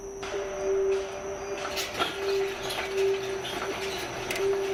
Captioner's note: sound of gate opening